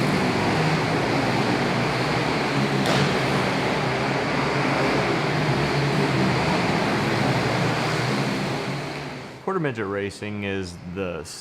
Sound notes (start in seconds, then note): 3.8 engines revving